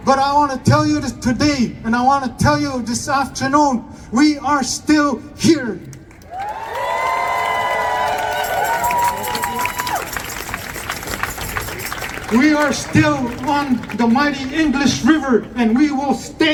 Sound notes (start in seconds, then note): 6.9 applause